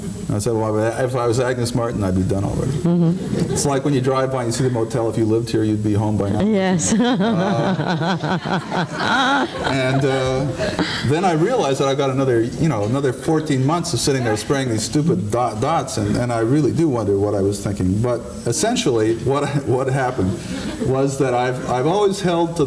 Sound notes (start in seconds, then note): 2.9 laughing; 6.8 laughing